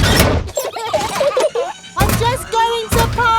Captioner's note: children giggling